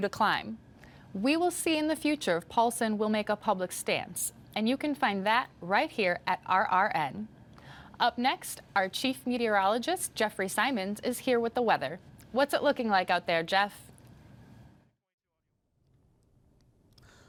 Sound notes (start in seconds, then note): none